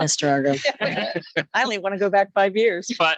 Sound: laughs

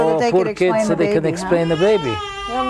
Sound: cries

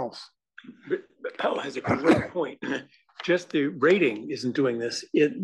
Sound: cough

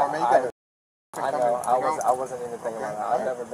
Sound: stuttering

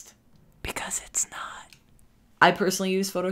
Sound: whispering

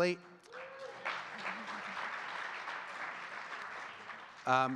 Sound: audience clapping

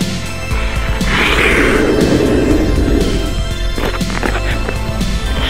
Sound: skate blades scraping

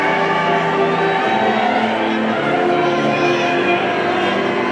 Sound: people cheering

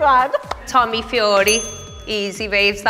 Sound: laughs; correct bell

